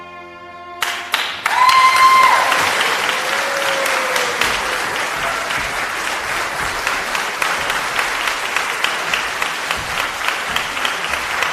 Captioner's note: applause